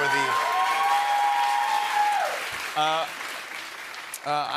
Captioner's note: cheers and applause